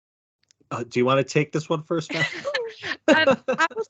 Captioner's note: laughing